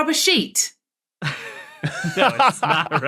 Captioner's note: laugh